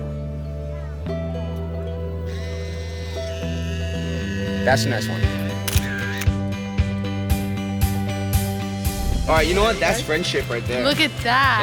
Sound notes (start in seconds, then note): 5.6 camera shutters